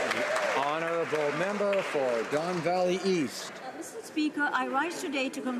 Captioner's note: some Applause